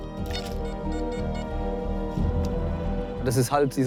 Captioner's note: metal detector beeps